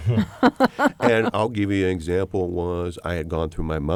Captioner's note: laughter